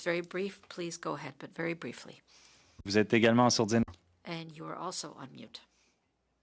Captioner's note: speaking French